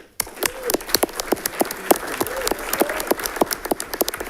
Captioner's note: audience clapping